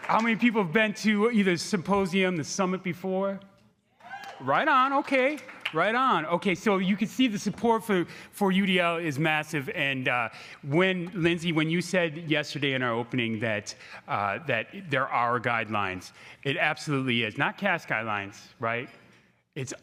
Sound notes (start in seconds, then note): 4.0 crowd cheering